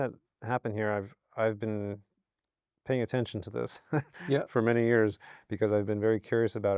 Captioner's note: laughs